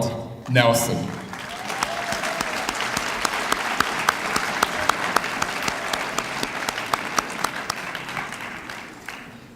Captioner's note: applause